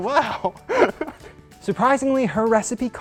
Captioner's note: laughs